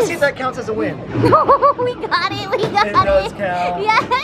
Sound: laughing

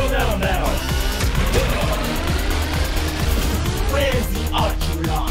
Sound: harpoon thumps

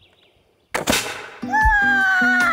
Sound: bang; yells and Laughs

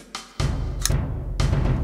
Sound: blade clicks; blade impales skull quietly

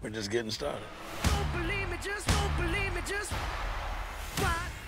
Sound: crowd cheering

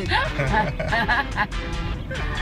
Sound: laugh

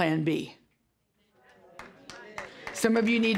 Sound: audience murmuring

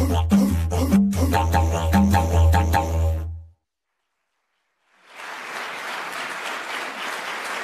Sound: applause

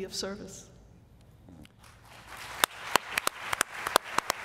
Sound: applause

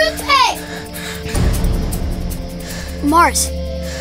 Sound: breathing heavily

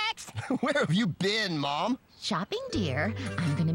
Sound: chuckles

